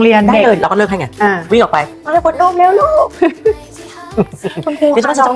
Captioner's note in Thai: เสียงหัวเราะ